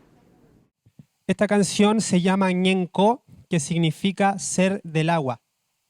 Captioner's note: speaking Spanish